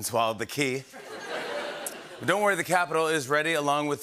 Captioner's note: laughter